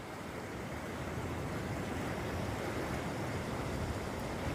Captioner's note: waves crashing